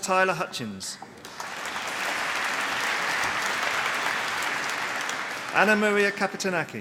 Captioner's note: applause